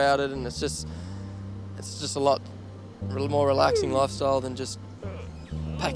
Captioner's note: yawns